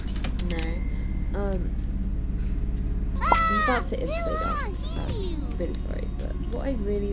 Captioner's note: laughs